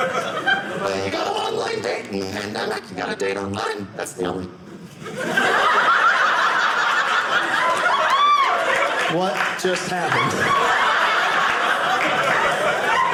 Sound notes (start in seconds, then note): 4.9 audience laughing